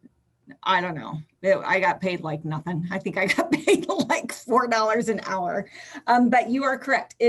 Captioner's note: chuckles